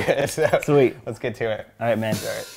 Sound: laughs

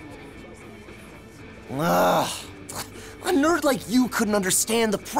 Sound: groans

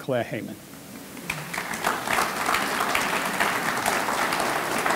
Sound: audience clapping

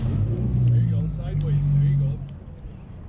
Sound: boat engine running

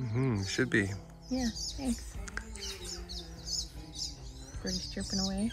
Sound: birds chirping

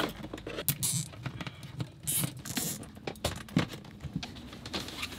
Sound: zip tie whirring

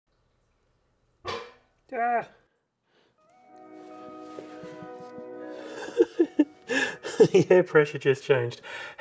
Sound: laughs

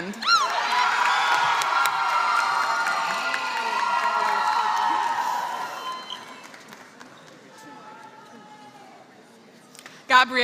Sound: applause

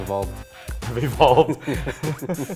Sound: chuckles

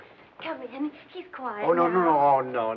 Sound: none

